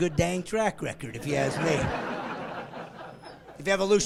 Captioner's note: laughing